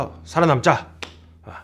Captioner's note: clap!